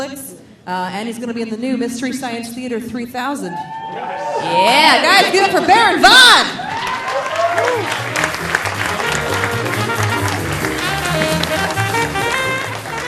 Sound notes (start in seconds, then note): 3.6 audience cheering; 6.6 audience applauding; 10.0 delightful music